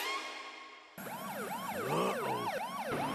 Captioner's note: police siren wailing